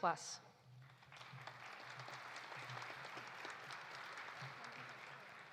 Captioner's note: audience applauding